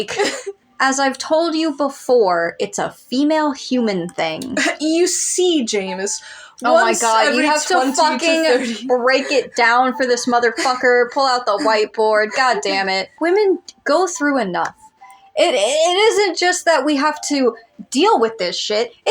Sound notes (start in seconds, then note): 0.3 laugh; 11.4 chuckle